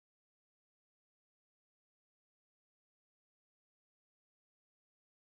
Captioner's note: none